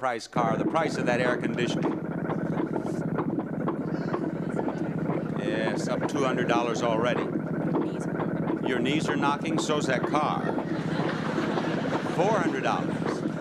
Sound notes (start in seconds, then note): 1.6 motor rumbles; 9.3 audience laugh